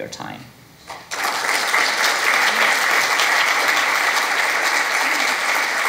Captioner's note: audience clapping